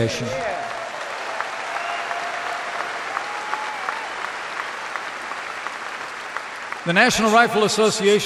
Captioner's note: applause